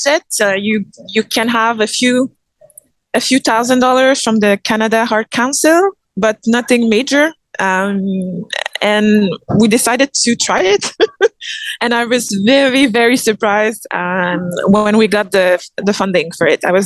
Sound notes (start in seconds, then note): 10.5 laughs